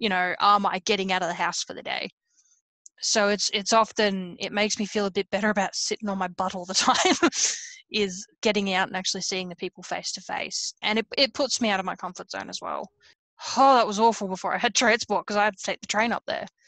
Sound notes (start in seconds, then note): 7.4 laughs